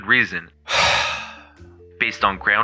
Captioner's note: the sigh of someone who wants to chew on glass right now